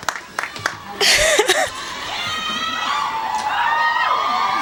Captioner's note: laughing